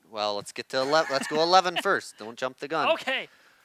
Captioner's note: laughs